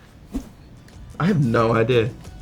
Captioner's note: slide swipe